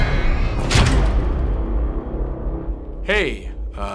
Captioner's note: door creaks; door slams